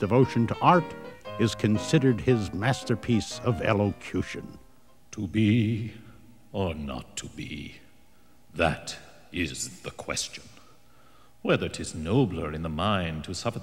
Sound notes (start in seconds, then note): 5.0 voiceover